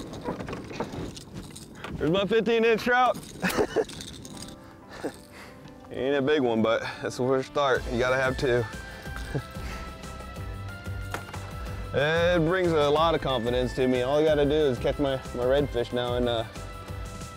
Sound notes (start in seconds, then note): 3.4 laughing